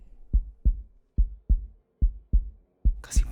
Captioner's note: heartbeat sound